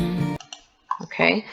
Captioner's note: click